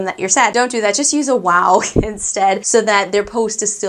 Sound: chuckling

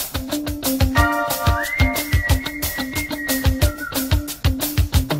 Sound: whistling

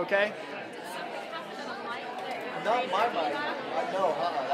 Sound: people chatting

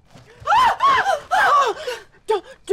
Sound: screaming

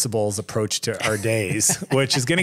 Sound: laughs

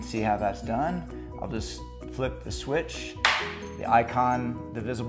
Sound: carrier locking

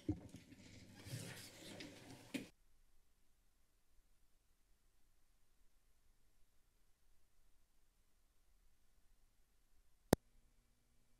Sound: silence

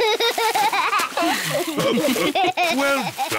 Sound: all laugh; laughs

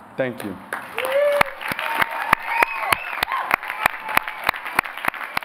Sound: applause

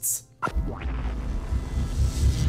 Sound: whooshing

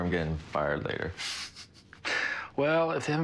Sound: chuckles

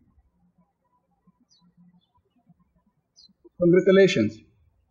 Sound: birds chirping

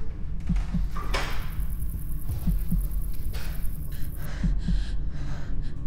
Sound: insects chirping; door creaking; both panting

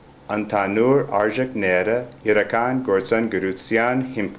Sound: non-english speech

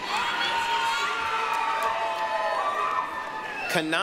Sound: applause, cheering

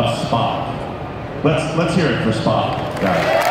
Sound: cheers

